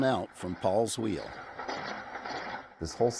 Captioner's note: wheel rattling